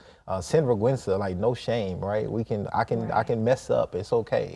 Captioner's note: in Spanish